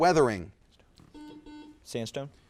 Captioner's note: buzzer buzzes